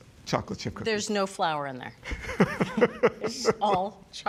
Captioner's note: laughs